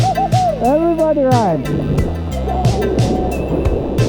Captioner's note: screaming